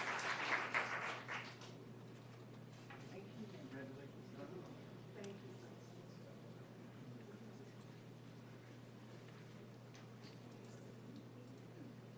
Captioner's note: applause